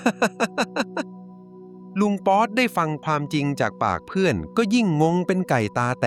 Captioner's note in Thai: เสียงหัวเราะ